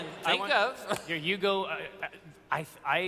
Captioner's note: stutter